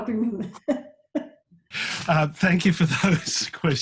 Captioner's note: laughs